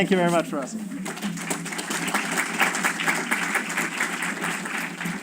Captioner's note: applause